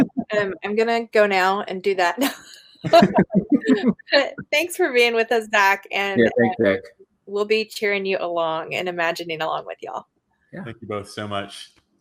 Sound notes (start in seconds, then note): 2.8 laughing